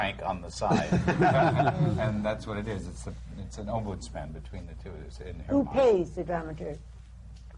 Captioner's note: laughter